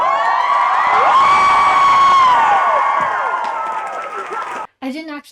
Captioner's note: cheering